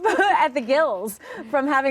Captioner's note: laughter